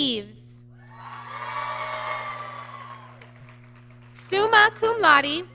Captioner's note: applause